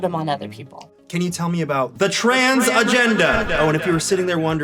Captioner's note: echoing